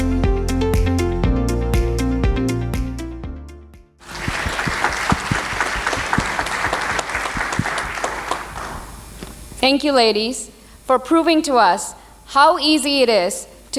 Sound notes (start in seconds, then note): 4.0 applause